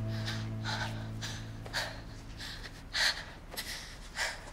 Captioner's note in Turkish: Bahar derin nefes alıyor